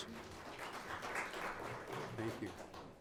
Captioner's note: audience applauds